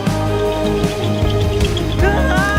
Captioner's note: Korok balloon rattle